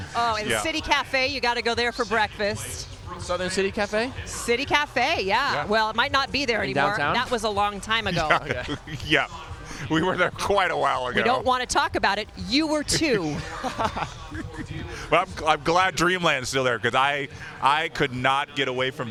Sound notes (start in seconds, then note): 13.0 laughter